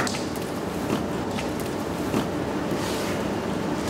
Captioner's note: machines whirr